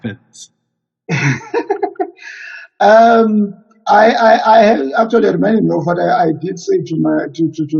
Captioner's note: chuckles